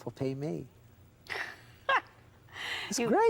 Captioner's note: she laughs